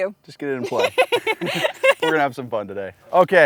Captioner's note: laughs